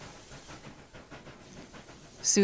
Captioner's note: training chugging away